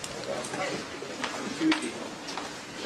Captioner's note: background chatter